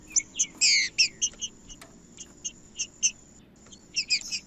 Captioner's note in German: trinca ferro cantando